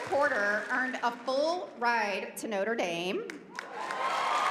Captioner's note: applause